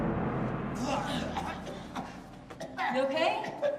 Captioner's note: Ryder coughing